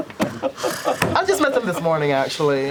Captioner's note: sighs